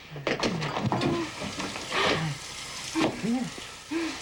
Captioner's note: water running from faucet